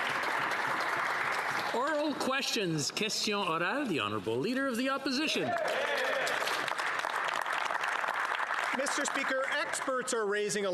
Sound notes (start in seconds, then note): 1.8 some Applause; 7.6 speaking French